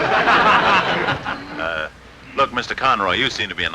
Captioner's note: audience chuckling